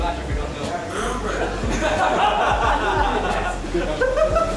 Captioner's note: laughter